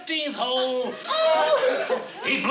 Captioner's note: cries